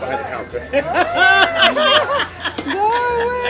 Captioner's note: laughs